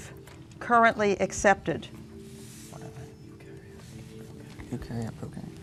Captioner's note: whispering; beeping